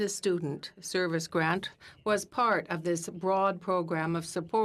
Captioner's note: speaking french